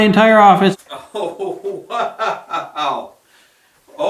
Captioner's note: laughing